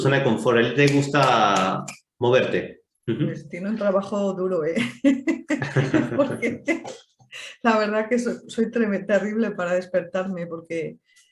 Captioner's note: laughs